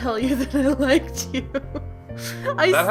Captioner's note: ugly laughs